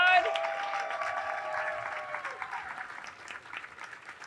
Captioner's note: audience cheering